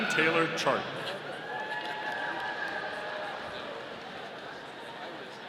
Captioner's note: audience cheering